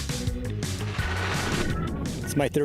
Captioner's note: whooshing